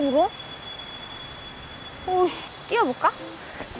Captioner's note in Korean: 삐~~ 소리가 계속 들린다